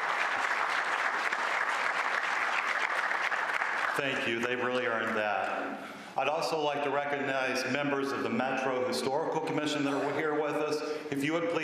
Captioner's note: applause